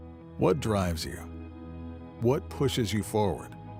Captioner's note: voiceover